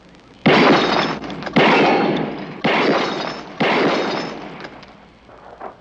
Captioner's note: gunshots